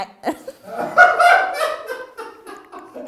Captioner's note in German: Er lacht laut